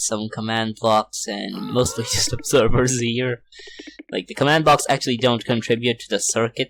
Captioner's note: laughs